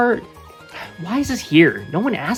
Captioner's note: exhale of pure disapooint ment and nothing else